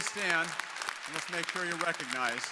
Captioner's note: crowd applauding